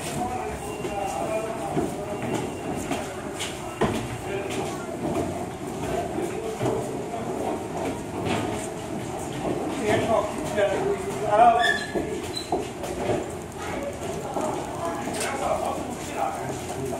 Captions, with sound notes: *footsteps* Okay, let's go. Ah huh